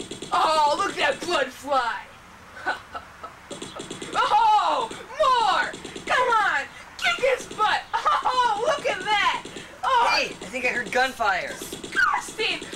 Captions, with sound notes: Oh, look at that blood fly. [Chuckles.] Oh-ho, more! Come on, kick his butt! Oh, look at that! >> Hey, I think I heard gunfire! >> Disgusting!